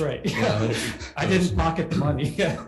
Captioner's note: laughing